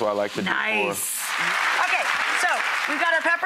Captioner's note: audience applauds